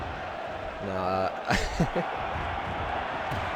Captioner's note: laughs